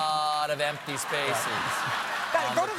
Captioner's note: applause; laughter